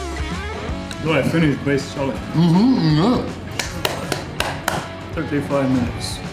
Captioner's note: clapping